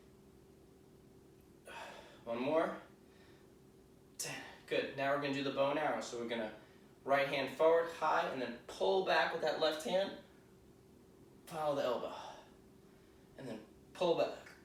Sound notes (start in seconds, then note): 1.6 exhaling